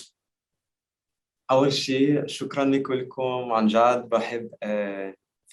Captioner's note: speaking Arabic